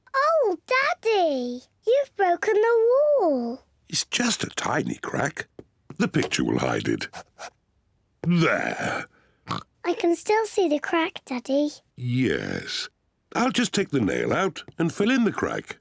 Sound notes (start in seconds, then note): 9.4 oinks